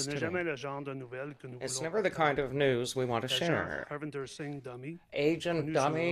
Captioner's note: speaking French